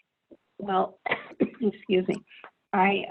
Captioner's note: coughs